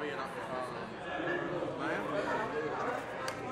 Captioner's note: chattering